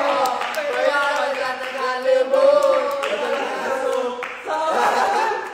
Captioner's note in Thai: ปรบมือ